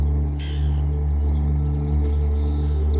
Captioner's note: eerie music; bird squawks; birdsong